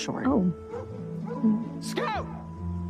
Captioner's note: dog barking